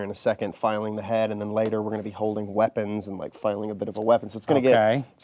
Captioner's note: none